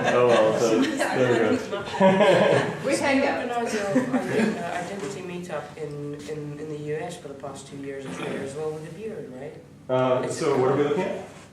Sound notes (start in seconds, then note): 0.0 laughter; 2.5 background chatter